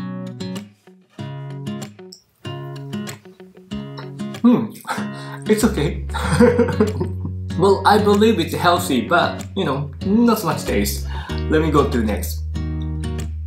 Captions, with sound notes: Hmm. It's okay. [CHUCKLES] Well, I believe it's healthy. But you know, not so much taste. Let me go to next.